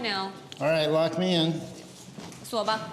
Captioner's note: speaking Chinese